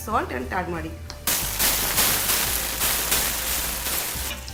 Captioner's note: sizzling